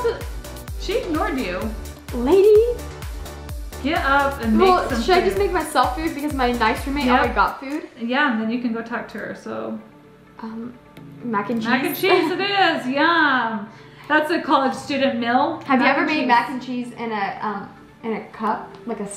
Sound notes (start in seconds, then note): none